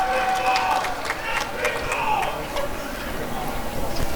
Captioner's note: applause and cheering